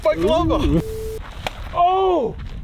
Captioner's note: crack